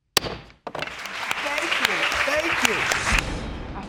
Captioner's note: applause